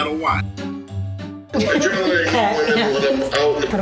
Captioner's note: laughs